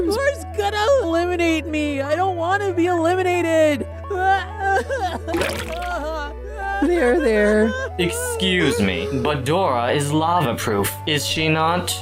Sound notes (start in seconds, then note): 3.9 crying whining; 5.3 splash